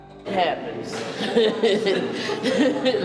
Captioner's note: laughs